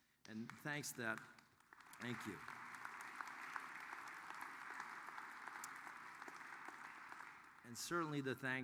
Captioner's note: applause